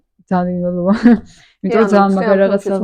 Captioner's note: giggle